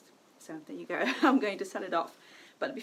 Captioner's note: laughs